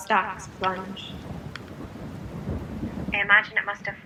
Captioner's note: rain